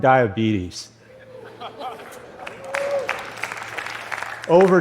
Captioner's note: laughter and applause